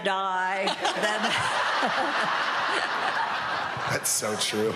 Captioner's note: all laughing